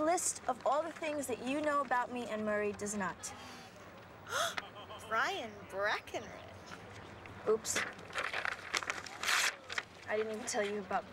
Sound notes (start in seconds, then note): 8.2 paper tearing